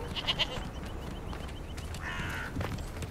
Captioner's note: goat bleats